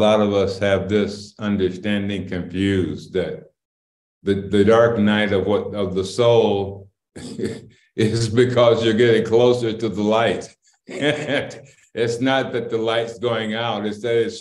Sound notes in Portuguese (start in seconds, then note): 7.3 Risos; 10.9 Risos